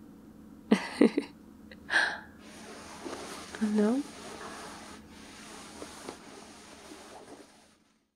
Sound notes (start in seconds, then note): 0.7 laughs